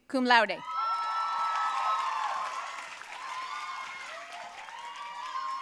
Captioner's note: audience cheering and applauding